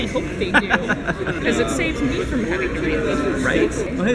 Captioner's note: laughs